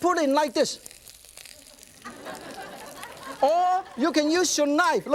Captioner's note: audience laughs